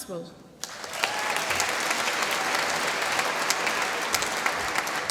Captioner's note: applause